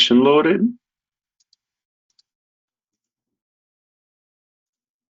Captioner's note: mouse clicking